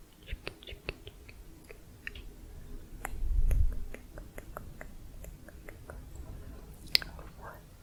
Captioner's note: tongue clicking